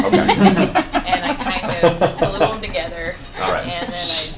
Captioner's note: all laugh